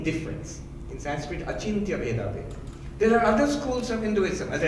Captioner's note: speaking in foreign language